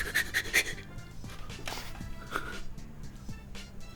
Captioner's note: panting